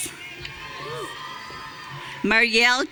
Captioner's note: audience cheering